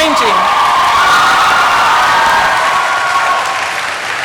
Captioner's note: applause